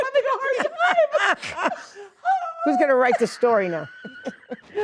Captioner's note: laughing